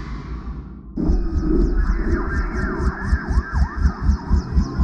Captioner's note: sirens blaring